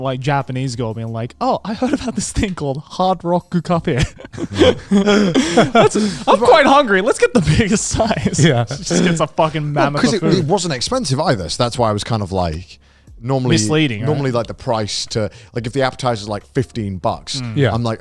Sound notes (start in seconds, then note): 3.8 laughing